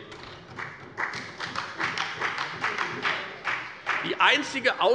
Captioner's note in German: Beifall bei der FDP und der SPD